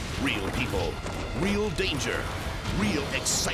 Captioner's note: helicopter booms; hooves pattering